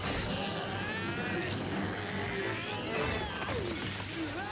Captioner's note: groaning